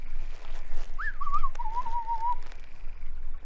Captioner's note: innocent whistling